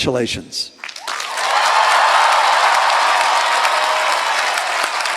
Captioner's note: applause